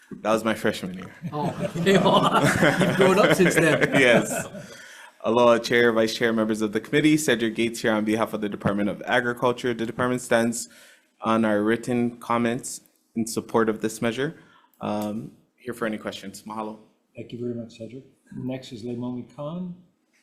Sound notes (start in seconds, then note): 1.1 all laughing